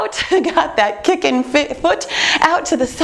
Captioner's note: chuckles